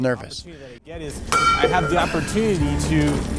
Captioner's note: items clanging